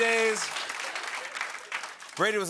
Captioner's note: applause